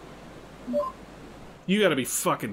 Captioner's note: notification sound